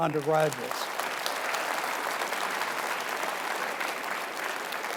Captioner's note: audience applauding